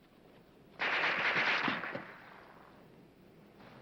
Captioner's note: gun firing